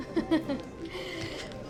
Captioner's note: laughs